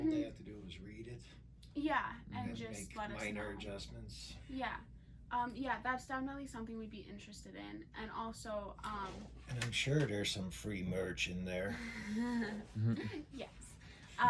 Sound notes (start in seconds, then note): 11.9 laughs